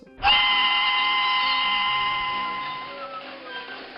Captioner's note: train whistle blowing